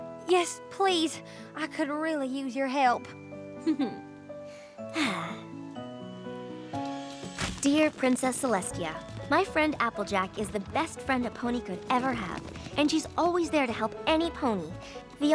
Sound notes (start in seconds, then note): 3.6 chuckles; 4.5 sighs